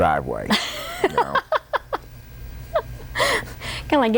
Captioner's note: laughter